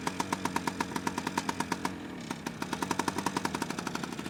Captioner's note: engine humming